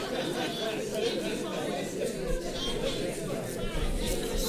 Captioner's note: audience chattering